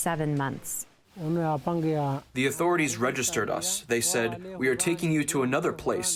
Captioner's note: through translator